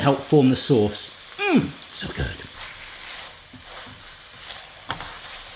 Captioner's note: grunts